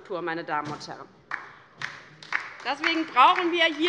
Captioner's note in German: Beifall bei der LINKEN